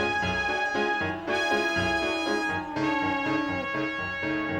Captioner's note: lion moaning